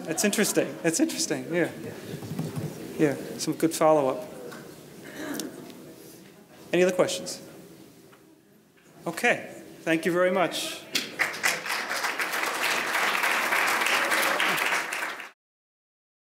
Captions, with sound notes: That's interesting. That's interesting, yeah. Some good follow up. Any other questions. Okay, thank you very much. (audience applauds)